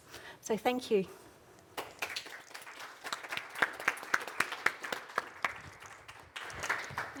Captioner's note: applause